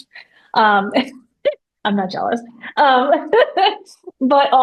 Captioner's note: laughs